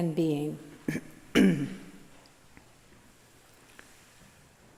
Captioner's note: clearing throat